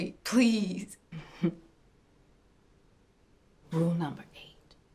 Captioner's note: chuckles